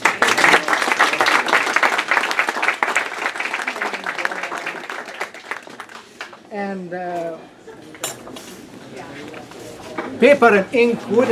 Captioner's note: applause